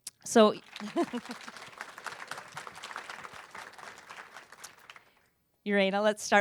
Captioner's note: applause